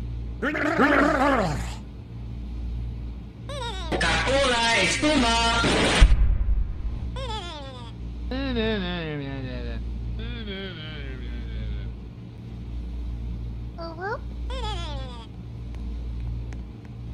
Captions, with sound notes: WERBRBRBRBRBRH 2X CACO-LA EXPUMA (BOOM) UwU